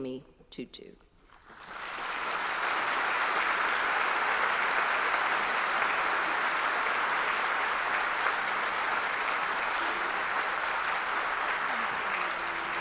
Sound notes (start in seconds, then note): 1.2 applause